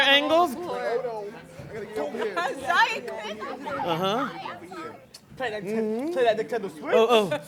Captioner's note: chatter and laughter